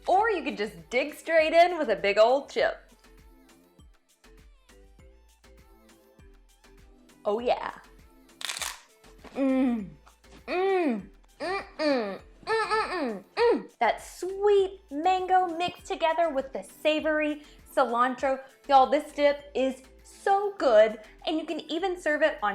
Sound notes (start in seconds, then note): 3.3 lighthearted music; 8.4 chip crunches